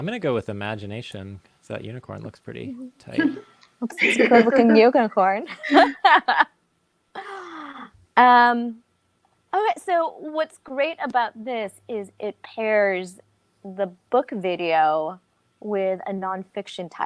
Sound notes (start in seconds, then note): 5.5 laughs